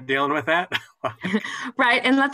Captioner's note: laughter